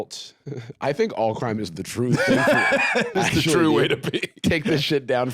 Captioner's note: laughs